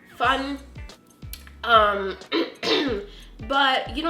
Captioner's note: clears Throat